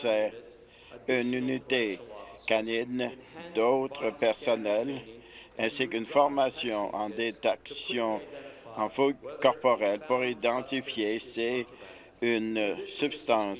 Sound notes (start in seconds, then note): none